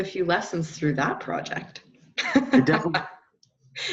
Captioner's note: laughter